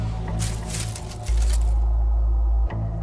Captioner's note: leaves rustling